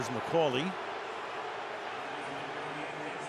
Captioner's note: crowd booing